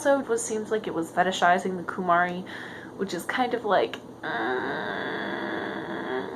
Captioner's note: discusted noises